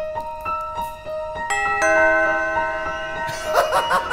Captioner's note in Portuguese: música de suspense; campainha tocando; risos